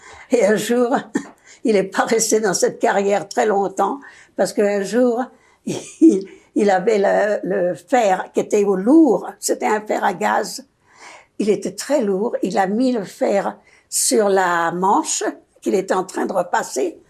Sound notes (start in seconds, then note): 5.7 laughing